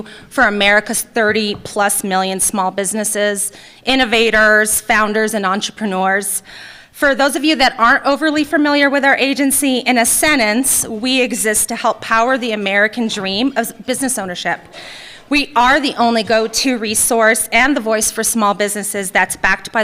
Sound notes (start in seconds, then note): none